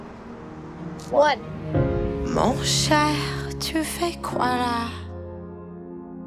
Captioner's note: French